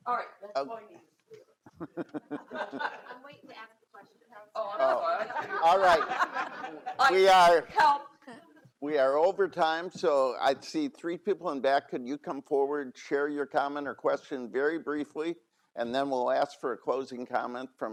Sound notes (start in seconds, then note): 5.0 all laugh